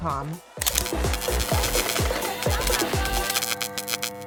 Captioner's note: upbeat music; words sizzling